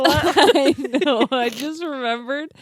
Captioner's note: laughing